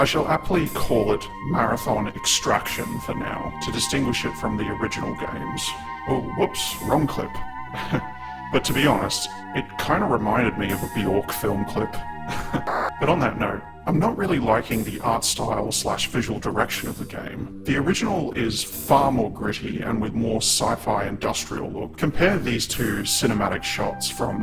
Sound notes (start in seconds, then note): 12.2 laughs